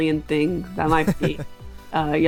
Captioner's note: chuckles